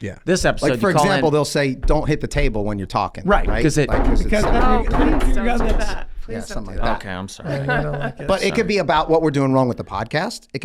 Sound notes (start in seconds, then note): 3.3 everyone bangs the table